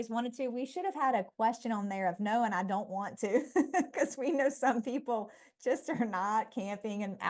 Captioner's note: laughter